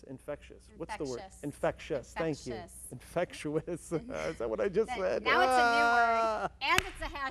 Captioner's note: laugh